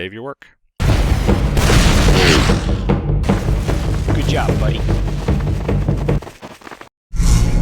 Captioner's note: game sounds